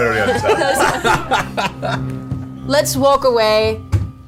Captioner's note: all laugh